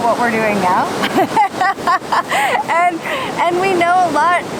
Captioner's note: laughs